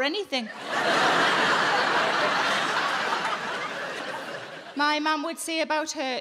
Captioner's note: audience laughing